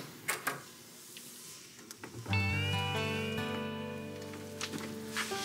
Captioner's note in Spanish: sonido al abrir la puerta